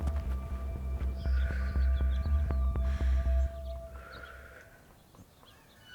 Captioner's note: measured breathing